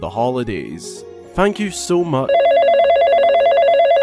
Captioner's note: phone Rings